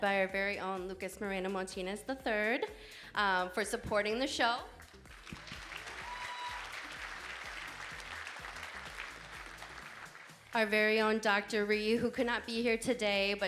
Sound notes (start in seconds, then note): 4.8 audience applauding; 5.2 audience cheering